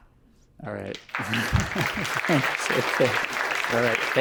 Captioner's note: applause